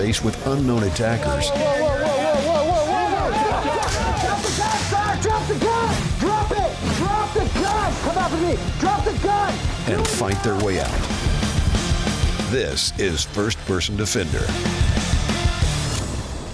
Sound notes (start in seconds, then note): 3.1 screaming; 3.3 guns shooting